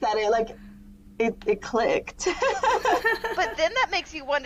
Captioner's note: laughter